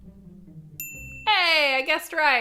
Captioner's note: bell dings